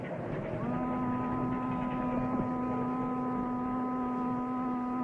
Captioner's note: boat horn blowing